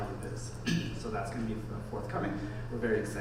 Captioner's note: clears throat